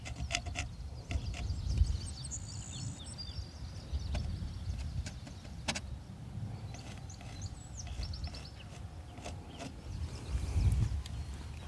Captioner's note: birds chirping